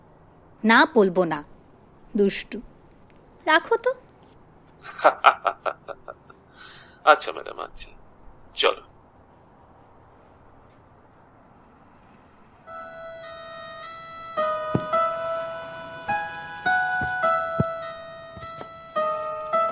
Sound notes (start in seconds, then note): 4.8 laughs